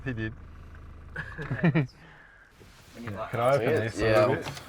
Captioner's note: passenger laughs